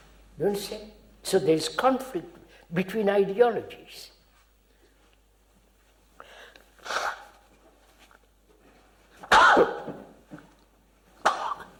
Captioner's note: coughs